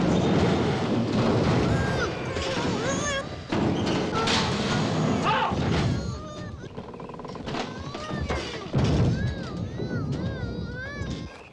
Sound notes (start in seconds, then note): 1.9 Tommy groaning frantically; 8.9 house booms